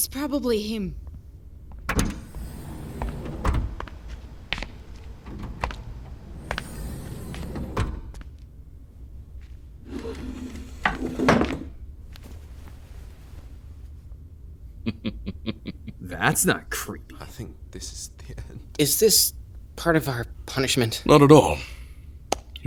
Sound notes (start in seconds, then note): 14.8 laughs softly; 16.3 sarcastic